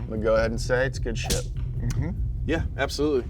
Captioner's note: punch thuds